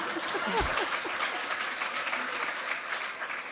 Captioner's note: applause